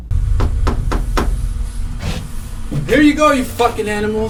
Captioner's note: knocking on door